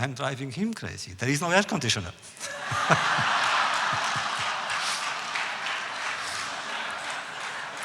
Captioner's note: audience laughs